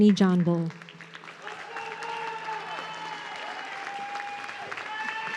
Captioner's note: audience cheering